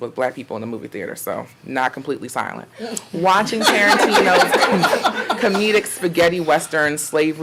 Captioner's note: audience laughing